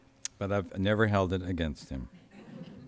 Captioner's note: laughter